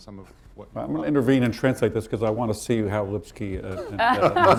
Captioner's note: laughter